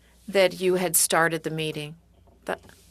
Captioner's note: speaking French